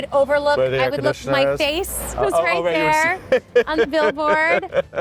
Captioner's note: laughing